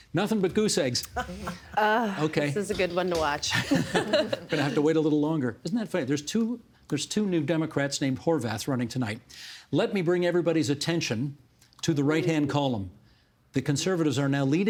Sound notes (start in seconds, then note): 1.0 oos and ahs